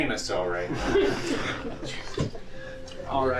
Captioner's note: all chuckling